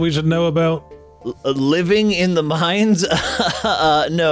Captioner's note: incredulous laugh